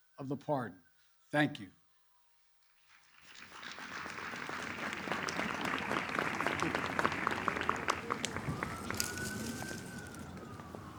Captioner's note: applause